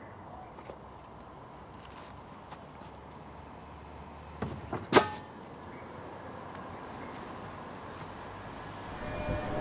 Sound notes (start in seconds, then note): 4.3 book falling into trash can